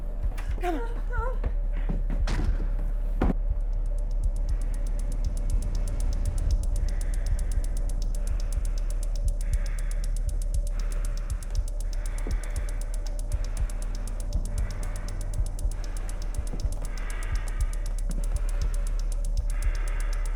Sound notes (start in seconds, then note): 0.5 Tina whimpering; 6.6 muffled heavy breathing